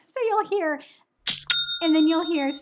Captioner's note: cash register dings